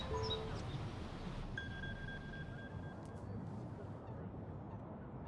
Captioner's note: phone ringing